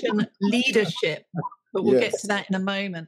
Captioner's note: laughing